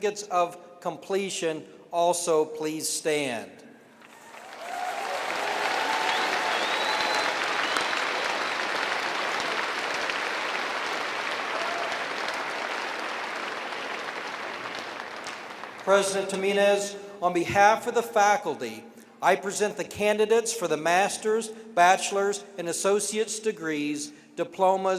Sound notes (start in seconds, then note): 8.9 cheering and applause